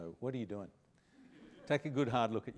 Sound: laughter

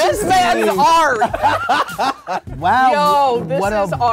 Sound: laughs

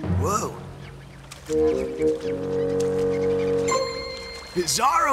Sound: squeaking

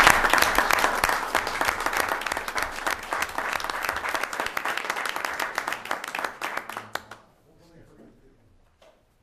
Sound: applause

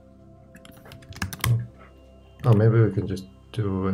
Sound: keyboard clicking

